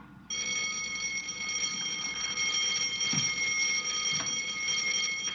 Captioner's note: bell ringing